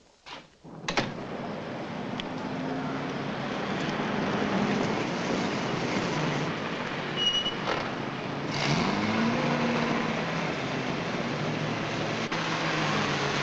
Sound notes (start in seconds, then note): 0.8 door thuds shut; 3.3 van rumbling